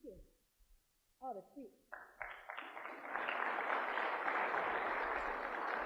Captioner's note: applause